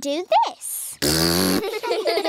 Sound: blows raspberry; laughter

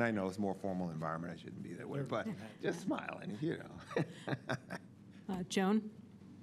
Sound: laughs

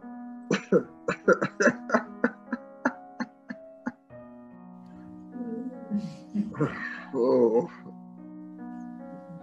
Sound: laughter

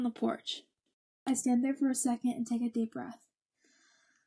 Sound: breathing

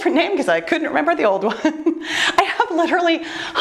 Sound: laughs

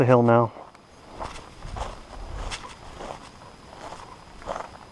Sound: footsteps thudding

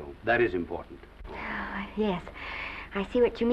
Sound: sighs

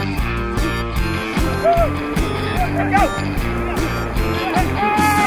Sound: all yelling

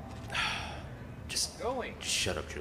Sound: sighs

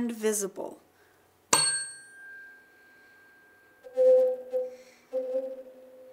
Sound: rings

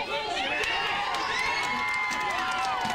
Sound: crowd Cheers

